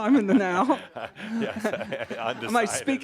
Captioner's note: laughing